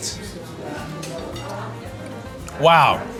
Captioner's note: patrons chattering